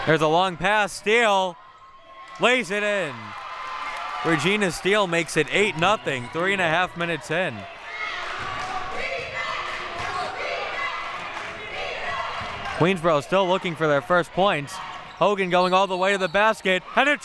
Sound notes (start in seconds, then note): 11.2 clapping